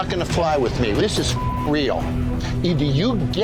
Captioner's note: beep